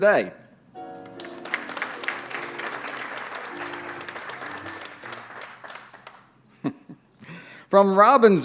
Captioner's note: applause